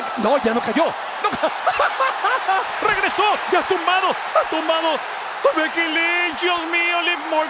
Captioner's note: laugh